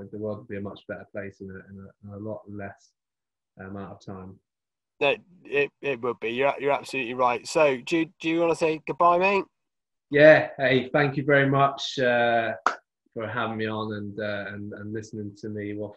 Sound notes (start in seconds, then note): 11.8 claps